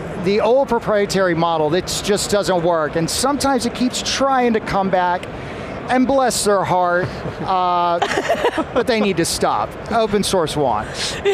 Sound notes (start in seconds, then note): 6.9 chuckling; 10.8 chuckling